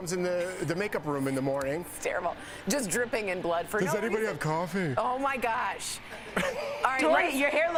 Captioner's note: laughter